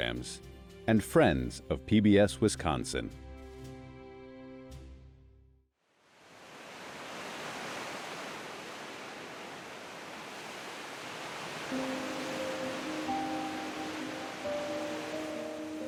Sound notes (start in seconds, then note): 6.2 waves brushing shore; 11.6 pensive piano music